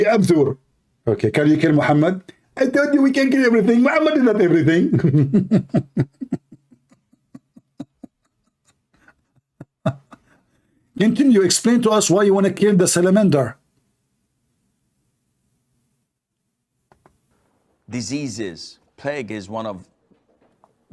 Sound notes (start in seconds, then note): 4.9 Ketawa